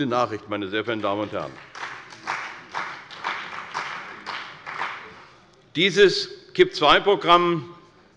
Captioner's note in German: Beifall bei der CDU und dem BÜNDNIS 90/DIE GRÜNEN